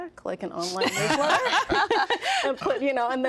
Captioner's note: all laughing